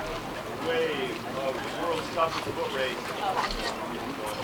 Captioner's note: crew chattering